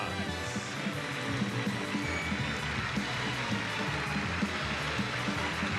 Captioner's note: audience cheers and applauds